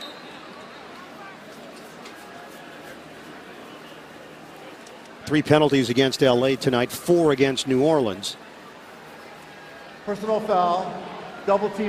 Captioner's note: whistle blowing